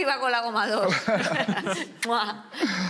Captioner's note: laughter